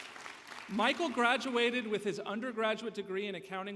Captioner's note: applause